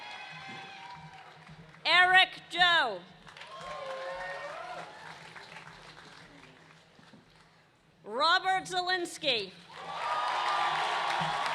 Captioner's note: cheers and applause